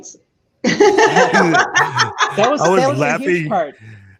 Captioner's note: panelists laughing